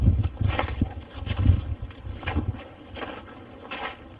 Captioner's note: snow crunching